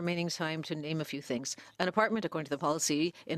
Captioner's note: speaking French